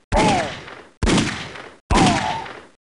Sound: gunshots

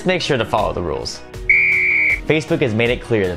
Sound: whistle blows

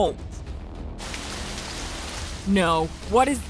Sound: water splashing

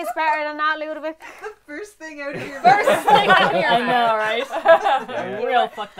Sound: laughter

